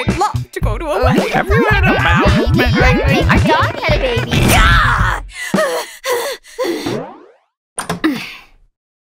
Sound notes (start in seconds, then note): 5.3 heavy panting